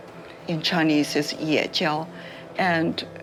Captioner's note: habla un idioma extranjero